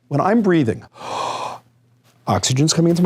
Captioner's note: taking breath